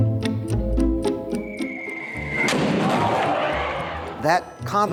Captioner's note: whistle